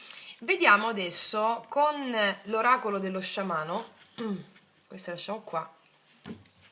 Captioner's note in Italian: schiarire la voce